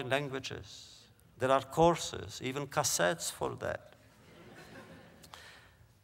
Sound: laughter

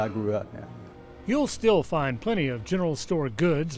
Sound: voiceover

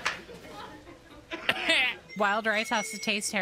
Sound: laugh Track; laugh Track Coughing Simultaneously

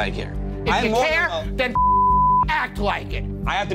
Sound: beep

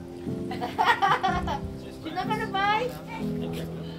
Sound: laughs

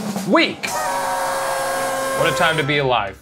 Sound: celebratory music; crowd cheering

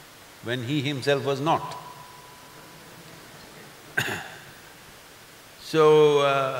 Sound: few laugh

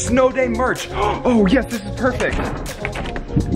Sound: gasping

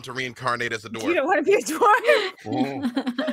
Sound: laughing; laughs

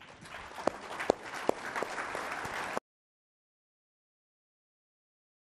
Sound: and audience applauding

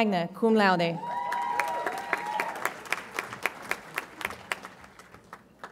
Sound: audience applauds and cheers

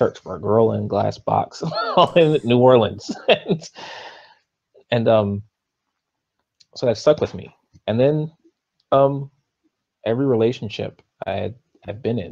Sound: laughs

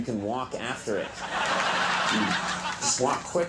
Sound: crowd laughs

